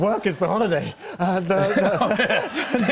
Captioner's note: laughter